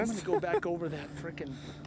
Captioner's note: laughter